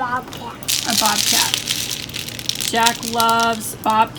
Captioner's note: seeds dropping